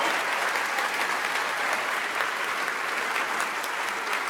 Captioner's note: audience applauds